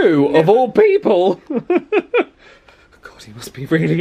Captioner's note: laughing